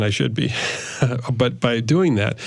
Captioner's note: laughs